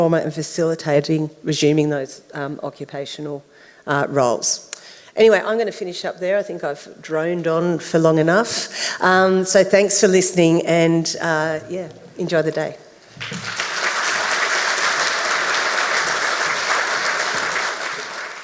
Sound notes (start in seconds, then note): 13.1 audience applauds